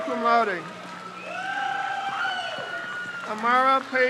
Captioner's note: crowd cheers